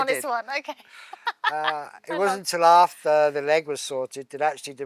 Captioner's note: laughs